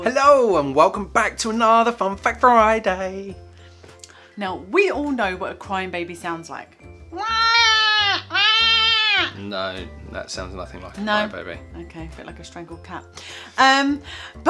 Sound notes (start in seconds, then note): 7.1 mewing like a strangled cat